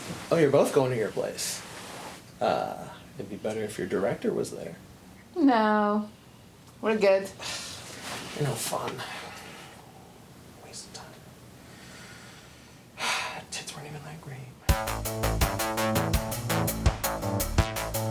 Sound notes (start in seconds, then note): 7.5 Randall sighs; 13.0 sighs; 14.7 upbeat synth music